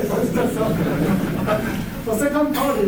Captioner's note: laughter